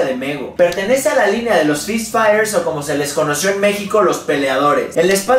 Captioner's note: in Spanish